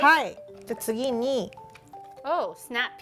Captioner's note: speaking Japanese